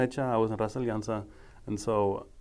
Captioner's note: speaking foreign language